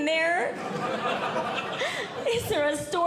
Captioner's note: audience Laughing